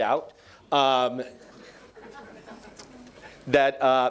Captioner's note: attendees laughing